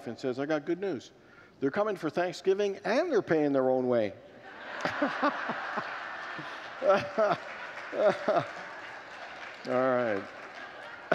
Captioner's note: congregants laugh; laughs